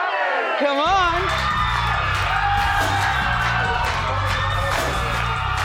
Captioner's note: audience mumbles; audience cheers